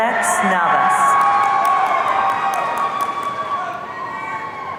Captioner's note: audience cheering